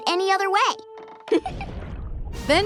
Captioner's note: Toph laughs